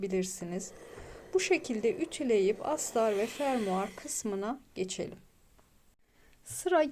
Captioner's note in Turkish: homurdanır